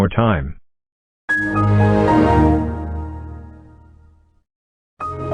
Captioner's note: Windows XP Shutdown; Windows XP Startup